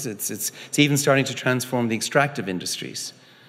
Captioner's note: none